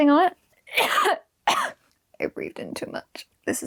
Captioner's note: coughing